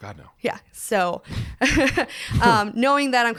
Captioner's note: laughs